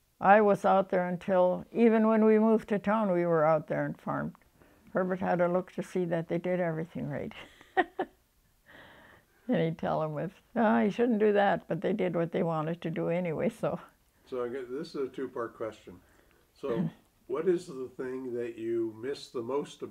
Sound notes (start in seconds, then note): 7.4 laughs